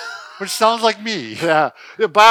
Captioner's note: laughs